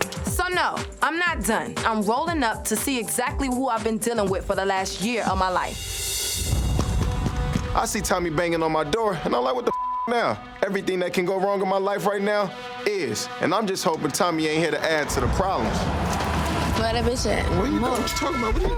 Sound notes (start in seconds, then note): 9.7 beep